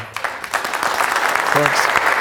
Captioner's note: applause